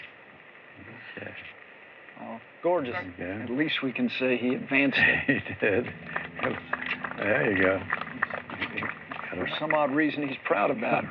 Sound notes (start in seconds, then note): 4.8 chuckles; 7.7 applause